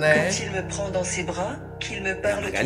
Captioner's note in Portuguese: narração em francês